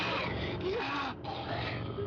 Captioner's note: growling